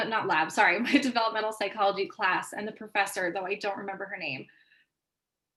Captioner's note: laughter